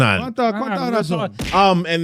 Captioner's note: speaking In Foreign Language